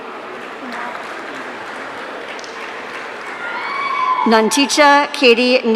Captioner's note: audience cheering